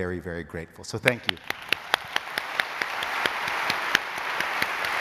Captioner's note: applause